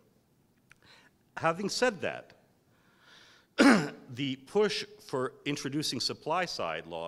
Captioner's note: cough